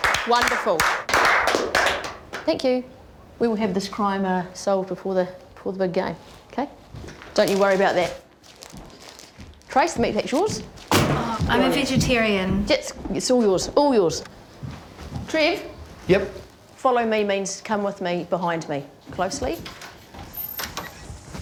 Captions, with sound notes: Wonderful. (SCATTERED CLAPPING) Thank you. We will have this crime solved before the big game, OK? Don't you worry about that. Trace, the meat pack's yours. - (THUD!) - Oh, I'm a vegetarian. - It's all yours. All yours. Trev. - Yep? - 'Follow me' means come with me, behind me. Closely.